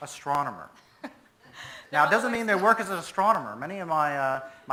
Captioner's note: laughs